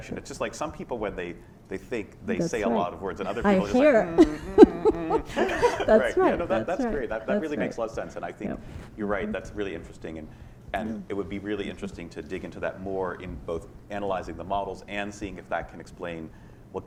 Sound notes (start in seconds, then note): 4.1 laughter